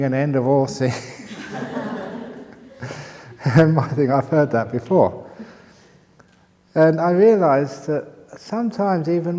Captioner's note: laughter